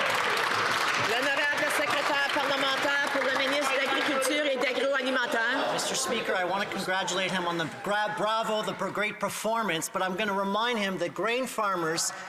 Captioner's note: some Applause